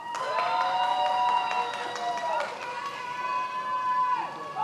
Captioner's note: many applauding